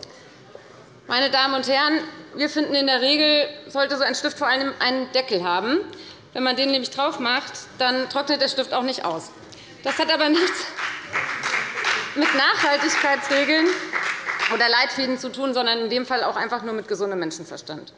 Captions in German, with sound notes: Meine Damen und Herren, wir finden, in der Regel sollte solch ein Stift vor allem einen Deckel haben. Wenn man den draufmacht, trocknet der Stift nicht aus. [Beifall bei der FDP] Das hat aber nichts mit Nachhaltigkeitsleitlinien zu tun, sondern in dem Fall nur mit gesundem Menschenverstand.